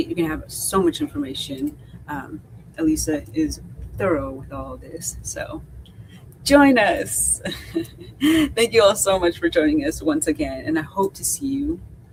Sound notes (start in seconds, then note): 7.4 chuckles